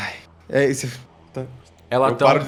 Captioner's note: whisper